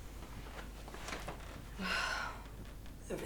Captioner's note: sighs